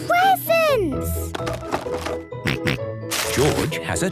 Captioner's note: rattling; snorting